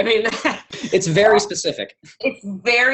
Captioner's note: chuckle